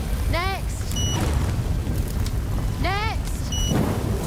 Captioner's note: card machine beeps; card machine beeps